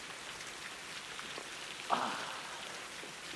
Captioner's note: groaning